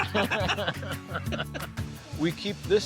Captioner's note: laugh